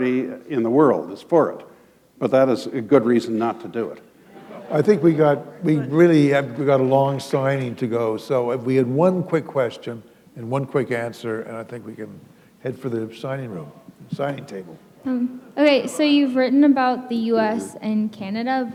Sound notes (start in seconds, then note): 4.3 laughter